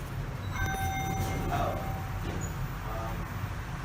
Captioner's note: elevator Chime Rings